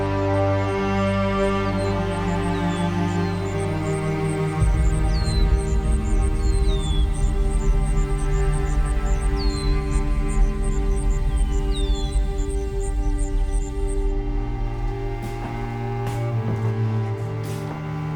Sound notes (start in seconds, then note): 0.3 crickets chirping; 5.3 birds chirping; 14.4 melancholy string music